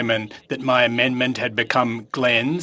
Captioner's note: speaking French